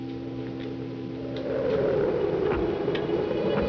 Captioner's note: wind howls